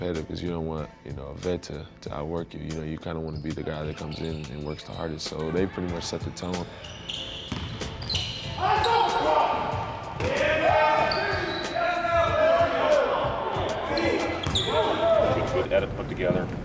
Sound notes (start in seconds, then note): 7.9 squeaking and calling out